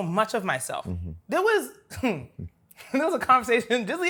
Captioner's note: laughs